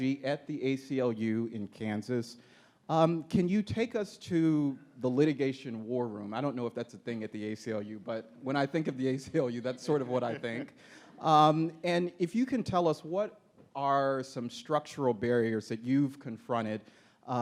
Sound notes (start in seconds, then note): 9.6 laughing